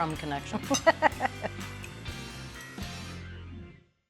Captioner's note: laughing